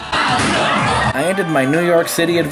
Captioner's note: audience groaning